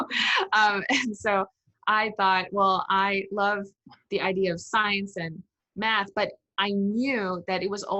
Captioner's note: laughs